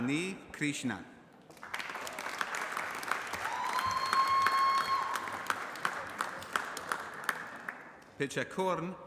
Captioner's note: applause